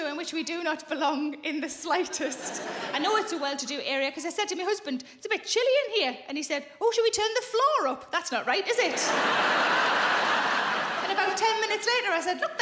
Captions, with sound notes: in which we do not belong in the slightest. (audience chuckling) I know it's a well-to-do area 'cause I said to my husband, "It's a bit chilly in here," And he said, "Oh, should we turn the floor up?" That's not right, is it? (audience laughing) And about 10 minutes later I said,